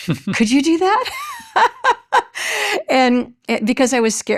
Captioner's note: chuckles